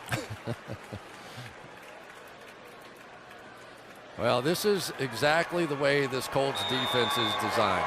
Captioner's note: laughs